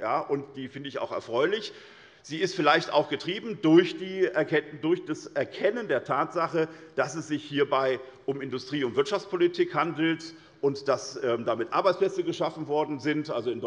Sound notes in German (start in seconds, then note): none